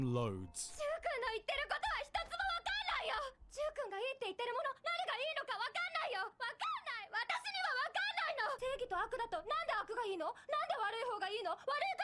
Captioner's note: speaking in foreign language